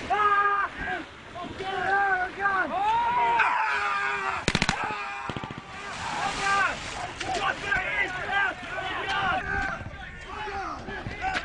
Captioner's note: shouting